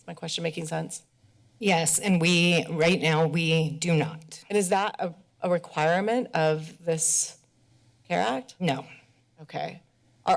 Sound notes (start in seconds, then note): none